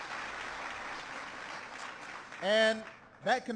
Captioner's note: applause